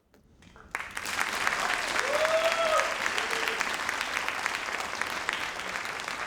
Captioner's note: crowd cheering and applauding